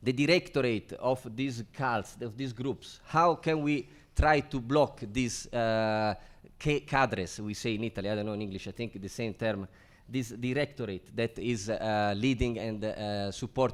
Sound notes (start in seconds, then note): 5.6 speaks foreign language